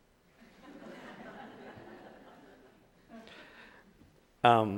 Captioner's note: audience laughing